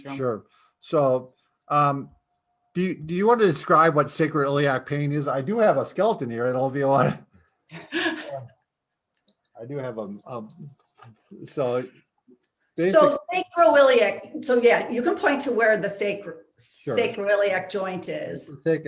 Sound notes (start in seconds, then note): 7.7 laughing